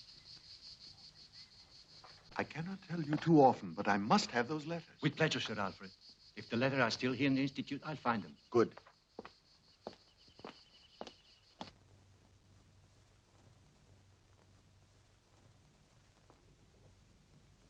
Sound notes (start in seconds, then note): none